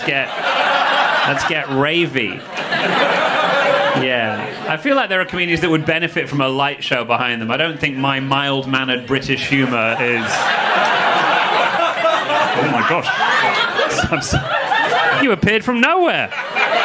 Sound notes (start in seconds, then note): 2.7 audience laughing; 9.4 audience laughing